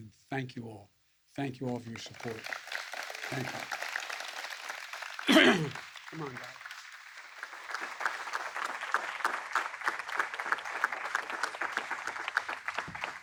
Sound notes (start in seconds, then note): 9.3 applause